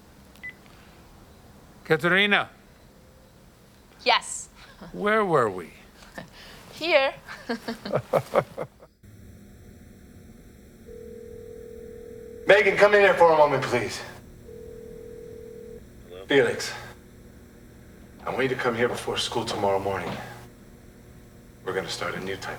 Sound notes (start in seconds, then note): 5.0 both chuckling; 10.8 line ringing